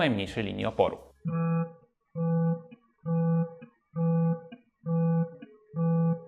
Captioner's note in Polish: pulsacyjna wibracja